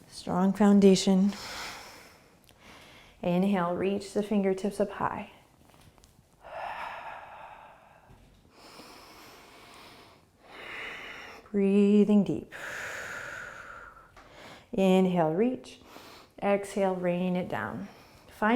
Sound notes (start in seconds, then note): 6.3 exhaling and inhaling; 12.5 exhaling